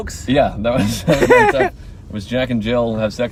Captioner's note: laughing